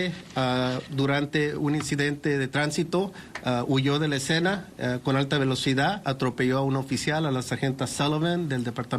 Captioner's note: speaking Spanish